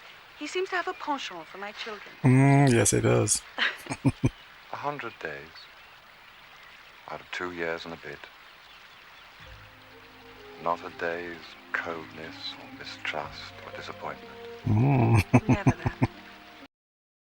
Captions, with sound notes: Mmm, yes he does. [Chuckling] Hmm. [Chuckling]